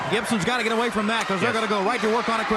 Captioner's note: crowd cheering